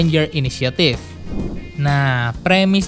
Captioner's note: transition sound